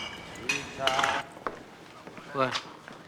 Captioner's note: bottles clinking